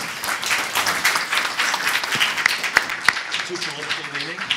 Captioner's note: applause